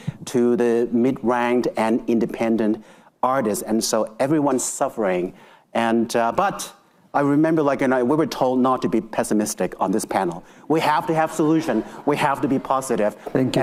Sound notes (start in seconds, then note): 11.2 attendees laughing